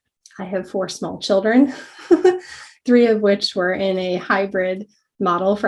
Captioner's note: laugh